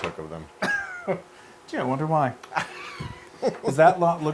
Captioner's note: laugh